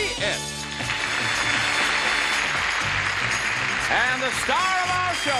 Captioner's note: applause